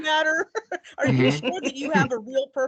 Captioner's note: laughing